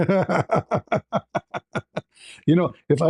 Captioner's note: ketawa